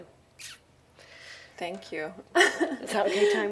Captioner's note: she chuckles